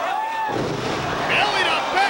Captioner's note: bodies slamming